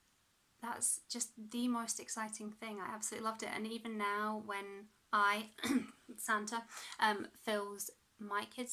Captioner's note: cough